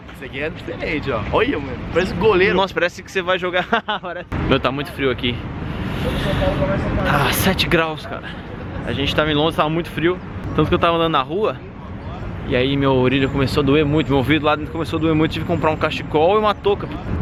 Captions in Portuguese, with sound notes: Esse daqui é diferente ó, olha mano parece um goleiro. Nossa mano, parece uma, parece que você vai jogar [risos]. Meu, está muito frio aqui. Ah, 7 graus cara. A gente estava em Londres e estava muito frio, tanto que eu estava andando na rua e aí minha orelha começou a doer muito, meu ouvido de um lado começou a doer muito e eu tive que comprar um cachecol e uma touca.